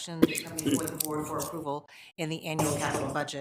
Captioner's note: coughing drowns out speaker